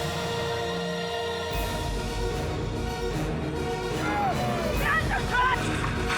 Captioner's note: upbeat music; people shouting